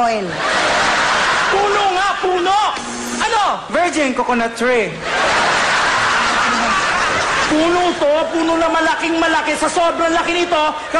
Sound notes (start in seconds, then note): 2.6 bzzt